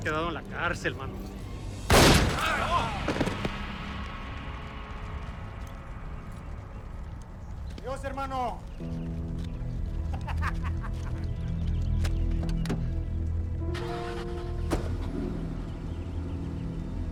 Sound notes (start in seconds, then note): 1.8 gunshot bangs; 10.0 shooter laughing; 13.7 engine starting